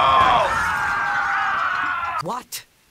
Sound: men shout

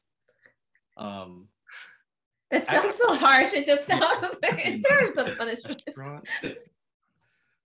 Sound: laughs

